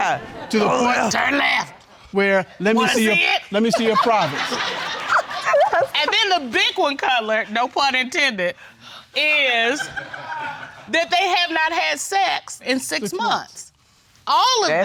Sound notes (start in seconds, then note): 3.8 all laugh